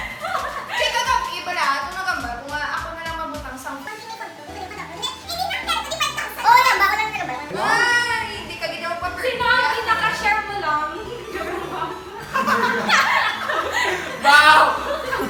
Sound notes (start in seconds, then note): 12.2 laughing